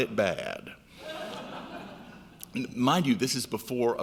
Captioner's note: laughing